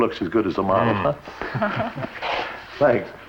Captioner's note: laughs